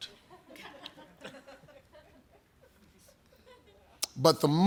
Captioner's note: audience laughing